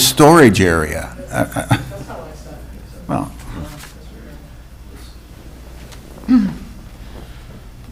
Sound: speaking distantly

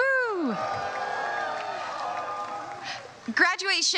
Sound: crowd cheers

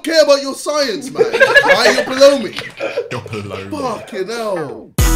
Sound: all laughing

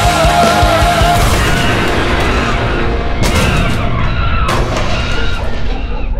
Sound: monkey screaming; banging

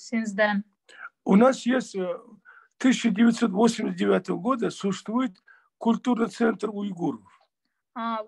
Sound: in Russian

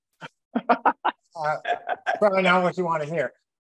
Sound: laughs

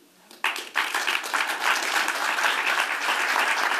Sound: applause

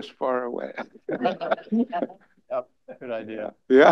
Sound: laughter

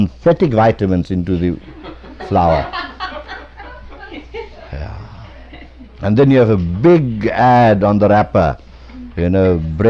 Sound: laughter

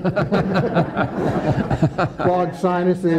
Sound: attendees laughing

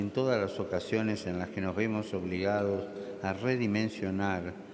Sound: speaking Alternate Language

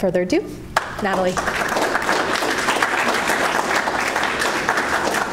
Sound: applause

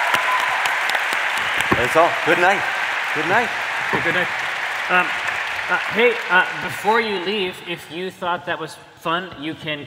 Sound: cheering

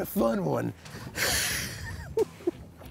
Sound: chuckling

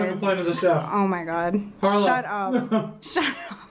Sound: laughter

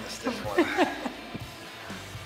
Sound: laugh

